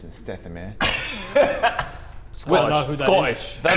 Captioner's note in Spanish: Risas